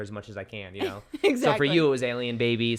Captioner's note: laughs